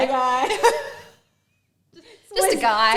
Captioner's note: both laugh